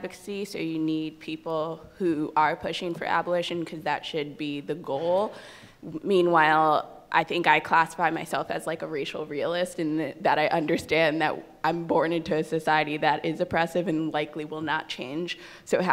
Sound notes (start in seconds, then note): none